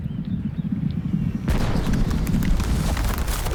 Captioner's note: gunshot cracks